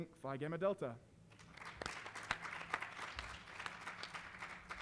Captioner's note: applause